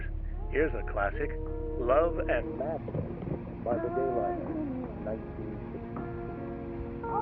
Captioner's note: radio